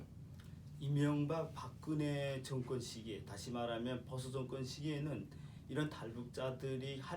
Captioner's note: speaking korean